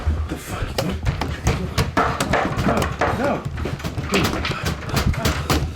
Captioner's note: loud erratic banging